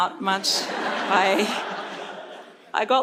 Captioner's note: audience laughs